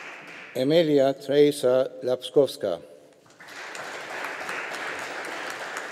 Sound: audience applauding

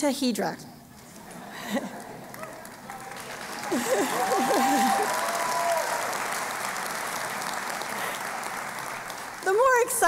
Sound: applause

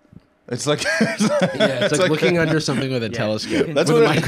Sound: laughs

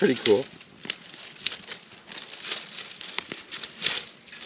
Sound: fire crackling

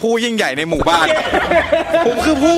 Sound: laughs

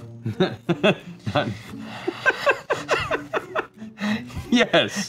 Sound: laughing

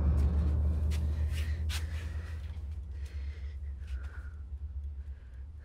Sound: quiet, suspenseful music; Carlos breaths nervously

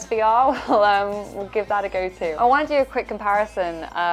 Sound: laughing

